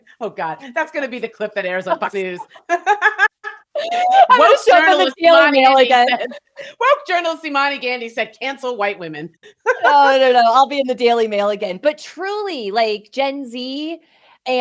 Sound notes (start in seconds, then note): 2.2 both laughing